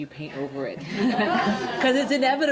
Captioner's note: all chuckles